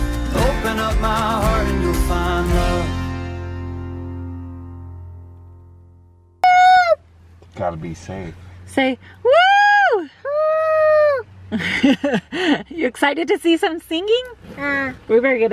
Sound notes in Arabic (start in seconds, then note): 11.5 ضحك